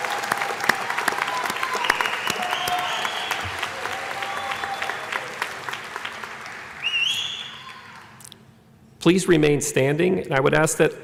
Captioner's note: applause